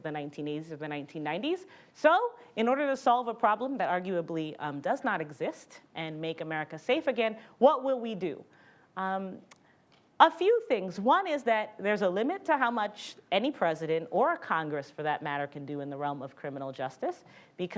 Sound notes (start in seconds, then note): none